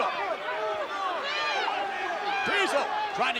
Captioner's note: officials and crowd clamor